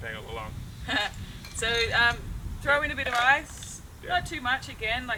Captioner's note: laughs